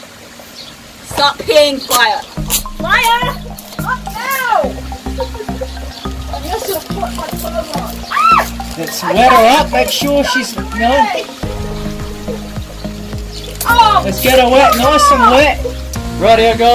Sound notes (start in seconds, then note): 4.9 turning my back away from the camera and laughing; 9.2 squeals